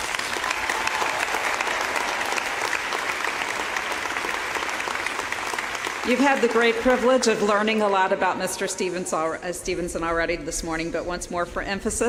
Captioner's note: applause